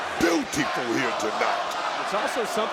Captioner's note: audience chanting